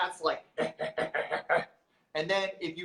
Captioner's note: mimics cat